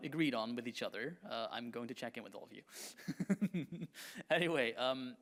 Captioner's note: laughs